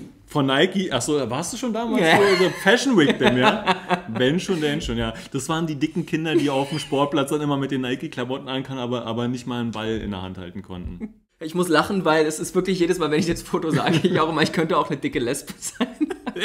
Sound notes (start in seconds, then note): 3.0 laughs